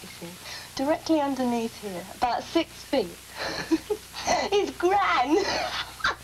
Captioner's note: she laughs